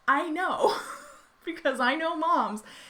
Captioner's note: laughing